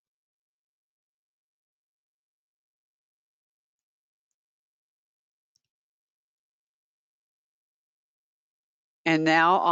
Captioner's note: 8 seconds pause